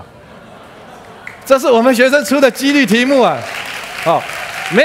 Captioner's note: applause